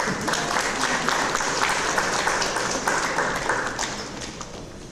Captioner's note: audience applause